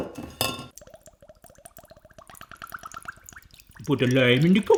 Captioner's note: water draining